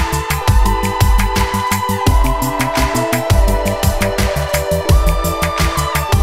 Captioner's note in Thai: ปรบมือ